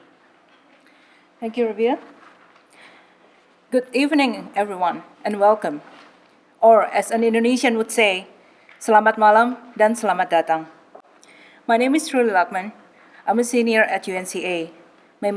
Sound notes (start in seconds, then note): 8.8 speaking Indonesian